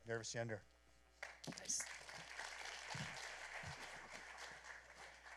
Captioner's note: applause